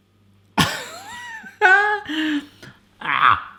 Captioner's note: laughing